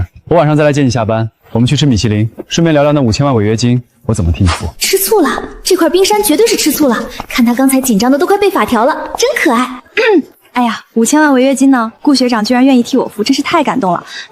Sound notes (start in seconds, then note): 9.7 cough